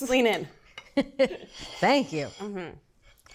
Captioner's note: laugh